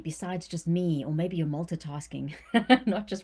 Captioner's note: laughs